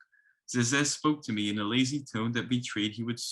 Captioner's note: speaks in foreign language